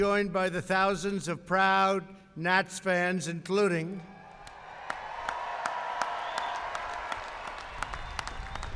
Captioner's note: applause